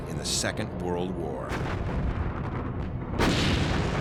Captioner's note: gunfire